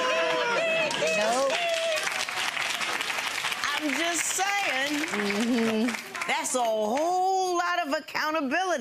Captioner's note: audience clapping